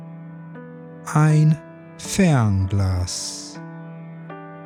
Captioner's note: german